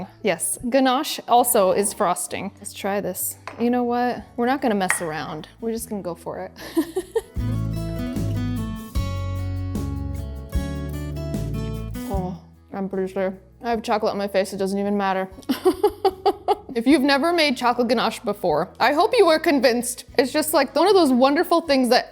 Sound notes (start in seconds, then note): 6.7 laughs; 7.4 gentle upbeat music; 15.5 laughs